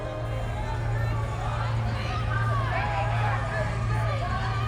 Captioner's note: somber music; crowd shouting